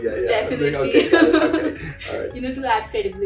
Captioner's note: laughs